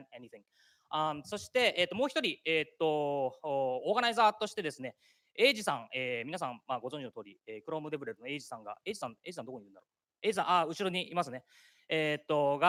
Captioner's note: speaking japanese